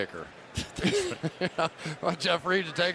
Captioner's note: laughter